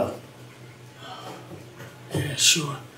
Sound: sighs

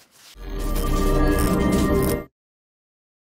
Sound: air buzzing

